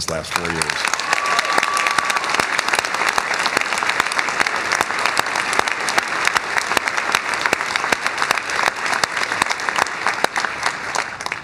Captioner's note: cheers and applause